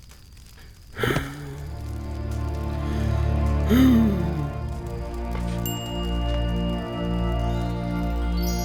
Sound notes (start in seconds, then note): 0.5 sighs